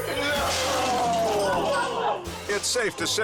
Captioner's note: glass shatters